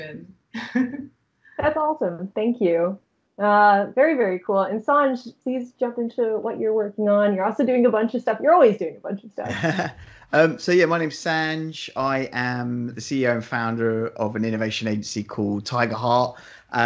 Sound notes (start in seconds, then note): 0.6 chuckling; 9.8 chuckling